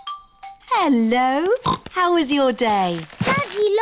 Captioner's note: oinks